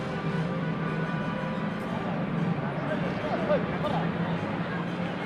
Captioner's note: bustling chatter